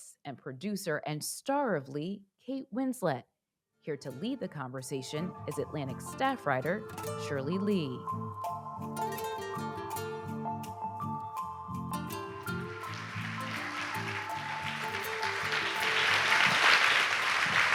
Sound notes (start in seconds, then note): 8.7 gentle music; 12.4 audience applauds